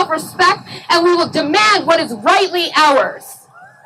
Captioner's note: cheering